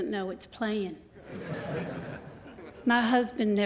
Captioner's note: laughter